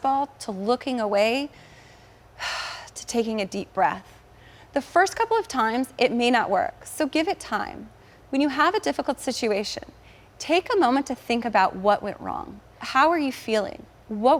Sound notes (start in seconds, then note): 1.5 inhales deeply